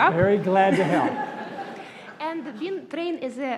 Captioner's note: laughter